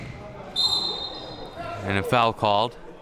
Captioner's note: whistle blowing